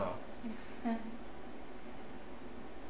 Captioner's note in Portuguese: Risos